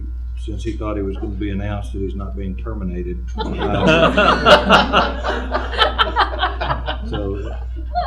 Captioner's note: laughter